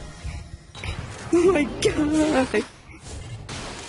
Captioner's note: laughs